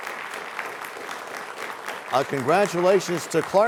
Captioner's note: applause